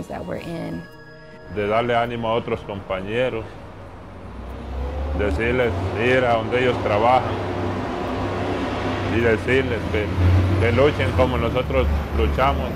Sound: speaking Native Language

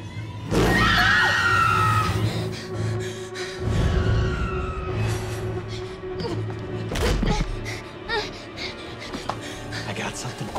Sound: panting; screaming

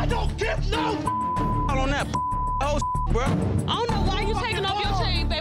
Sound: beep

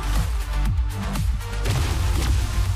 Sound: zaps

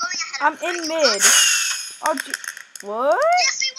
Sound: firework sounds

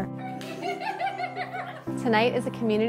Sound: laughing

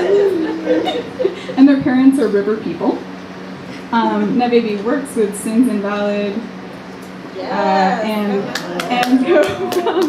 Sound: audience laughter; audience applause

